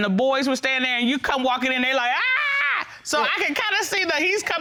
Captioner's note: screaming